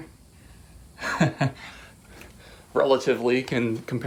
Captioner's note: laughing